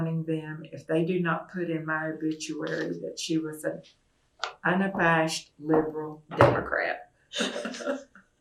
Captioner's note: laughter